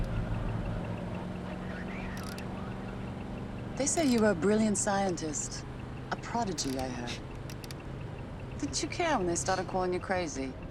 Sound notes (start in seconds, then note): 7.2 scoffs